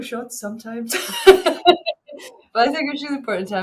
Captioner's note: laughing